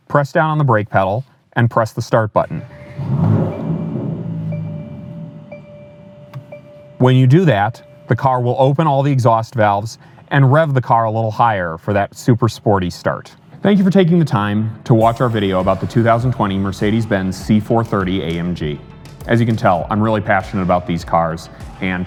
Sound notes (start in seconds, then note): 2.6 car roaring loudly; 3.1 dinging